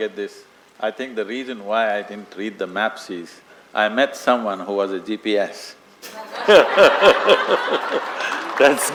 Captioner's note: laughter & Applause